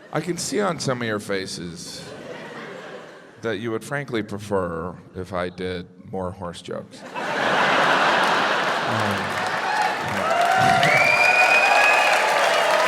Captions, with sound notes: I can see on some of your faces, that you would frankly prefer if I did more horse jokes. (crowd laughs) (crowd cheers)